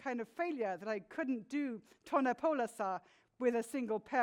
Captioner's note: speaks in foreign language